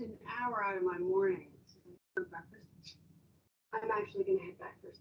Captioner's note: background chatter